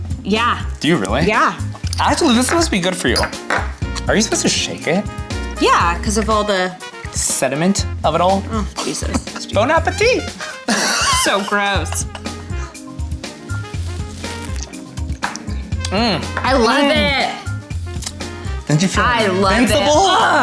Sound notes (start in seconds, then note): 8.8 chuckles; 10.3 laughs